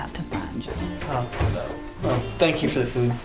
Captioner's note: door and shuffling on floor